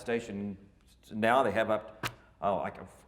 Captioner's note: soft bang